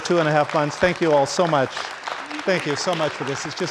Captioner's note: audience applauding